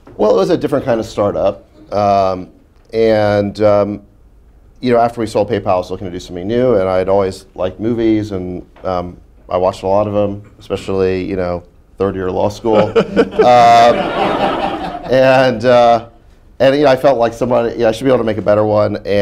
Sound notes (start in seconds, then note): 12.7 laughter